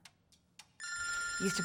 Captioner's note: phone ringing